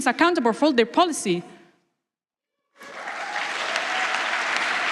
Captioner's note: applause